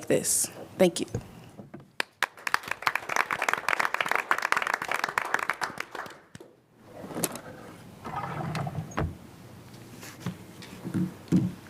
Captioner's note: applause